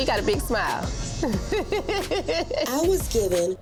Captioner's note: giggles